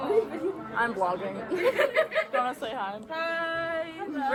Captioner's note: laughter